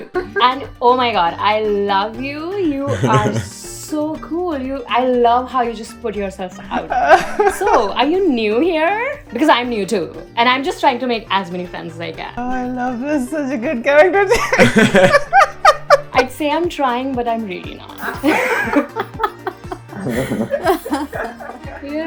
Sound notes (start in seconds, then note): 14.3 laughter; 14.3 laughs; 21.0 laughter